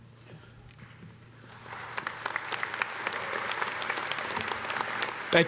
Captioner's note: audience applauding